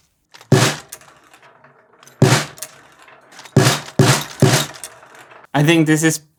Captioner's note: a series of the marble drops on the snare drum